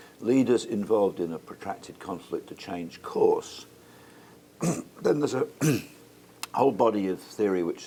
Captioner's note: cough